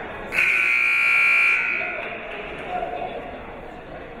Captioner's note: buzzer blares